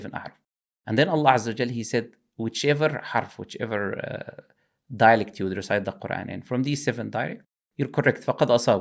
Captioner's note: dialect